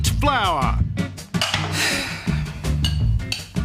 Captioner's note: sighs